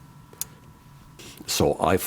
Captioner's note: click